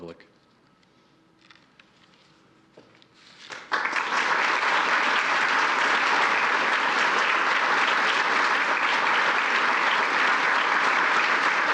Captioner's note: applause